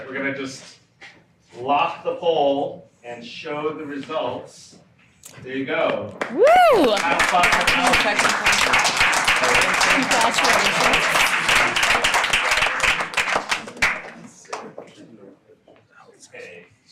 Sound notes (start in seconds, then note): 6.2 audience applauding